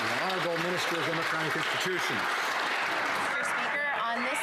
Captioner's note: some Applause